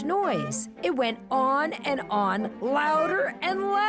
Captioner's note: honking